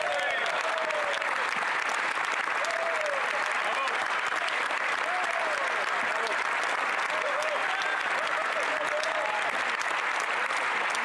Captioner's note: applause